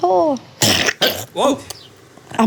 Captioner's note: baby sneezes